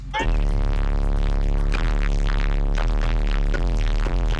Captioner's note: stereo buzzing